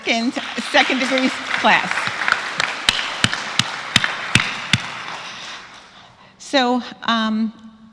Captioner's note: applause